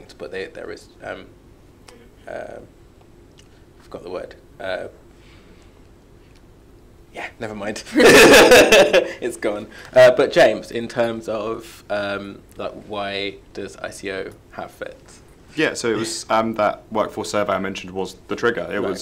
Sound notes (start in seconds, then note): 8.0 laughs